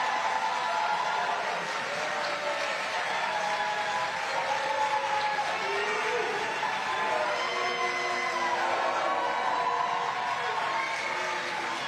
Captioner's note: cheers and applause